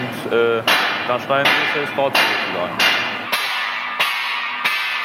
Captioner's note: loud banging